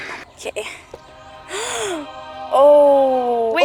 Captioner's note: gasp